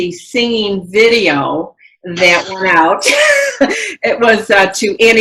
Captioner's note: laughs